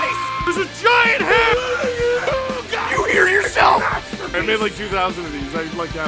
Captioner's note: Harry potter screaming; screaming